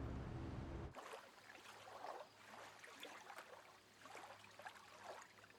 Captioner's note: water lapping